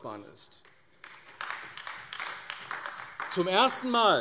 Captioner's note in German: Beifall AfD